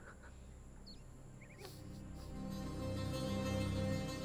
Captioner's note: Crying